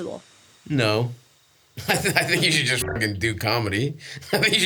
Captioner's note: beeps